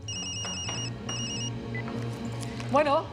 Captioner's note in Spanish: Suena celular